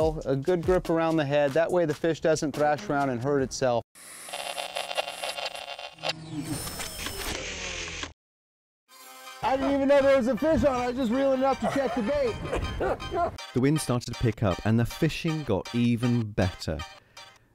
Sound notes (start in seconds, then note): 4.2 static; 4.3 mechanical sound